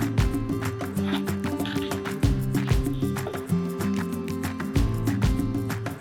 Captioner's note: laugh